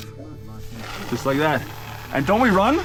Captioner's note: lighter flicks; dynamite crackles